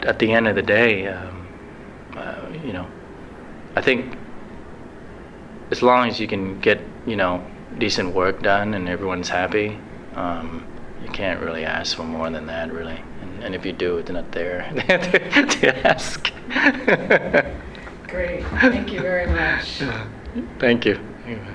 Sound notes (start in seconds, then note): 14.6 laughs